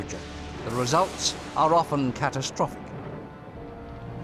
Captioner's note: thunder